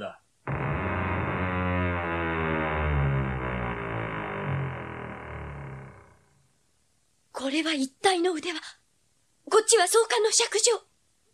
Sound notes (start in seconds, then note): 0.4 SFX: door creaks open